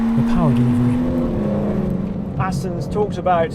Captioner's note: car humming